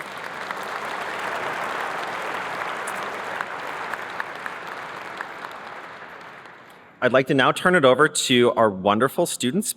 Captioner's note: applause